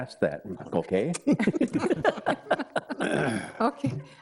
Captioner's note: board members laughing